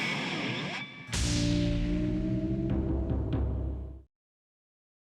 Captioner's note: logo whooshes